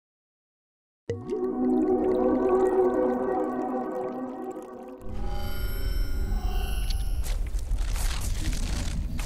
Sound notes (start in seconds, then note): 1.1 liquid trickling; 1.7 light music; 4.6 dramatic music; 7.2 rustling